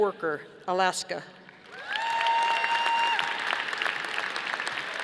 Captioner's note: audience applauding